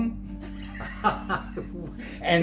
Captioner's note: laughing